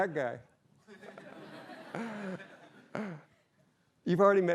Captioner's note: laughter